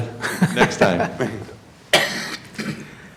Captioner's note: laughter